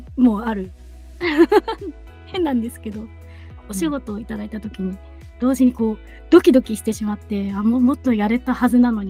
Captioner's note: laughs